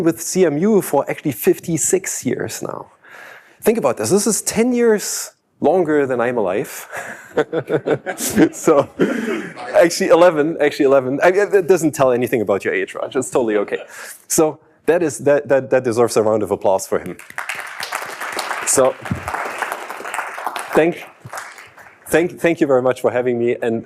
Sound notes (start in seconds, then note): 6.9 participants laughing; 17.0 participants clapping